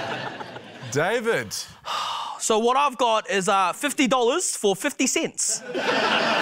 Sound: laughter; exhales; laughter

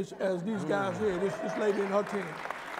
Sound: applause

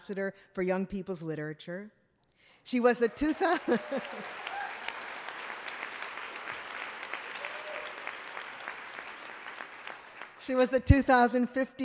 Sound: applause

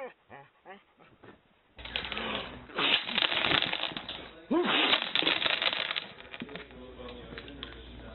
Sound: man sitting at table sneezing out candy

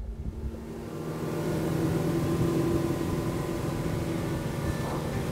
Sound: boat engine revving; lively music

